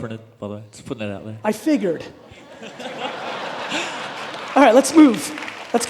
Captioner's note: audience laughing